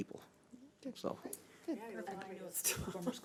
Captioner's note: overlapping chattering